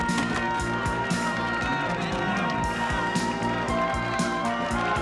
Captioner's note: cheering